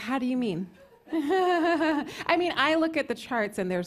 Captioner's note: laughs